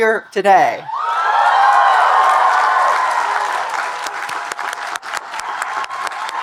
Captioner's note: audience cheering and applauding